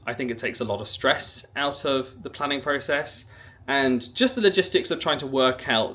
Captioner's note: none